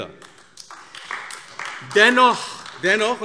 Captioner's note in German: Beifall AfD